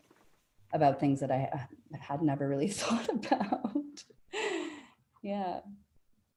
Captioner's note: laughing